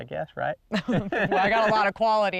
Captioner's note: laughing